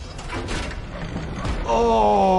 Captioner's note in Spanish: puerta rechinando y retumbando